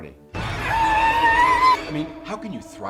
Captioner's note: intense music; Amelia screams